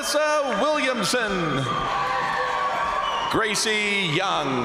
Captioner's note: crowd applauding; crowd cheering